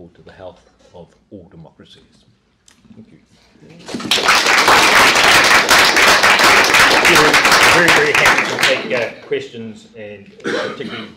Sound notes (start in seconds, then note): 3.8 applause